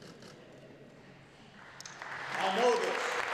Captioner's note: applause